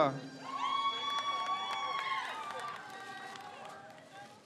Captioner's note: crowd cheers